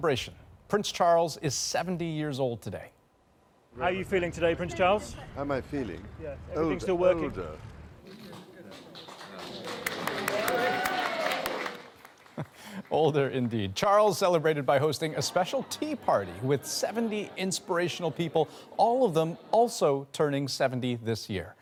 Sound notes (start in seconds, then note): 12.8 applause